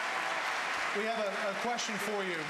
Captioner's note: applause